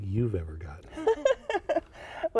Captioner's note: laughter